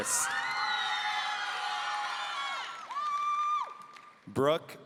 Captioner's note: audience cheering